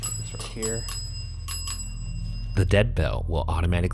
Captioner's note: bell ringing